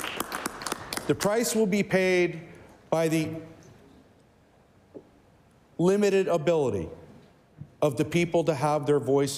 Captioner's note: applause